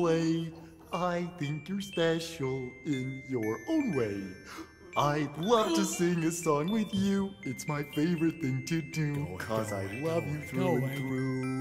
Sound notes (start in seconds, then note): 4.3 inhales